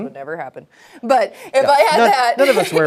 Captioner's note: laughing